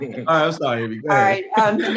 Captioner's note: laughter